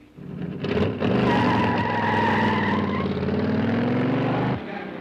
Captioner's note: engine revving; tires squealing